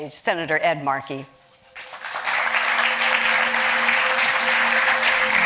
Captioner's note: audience claps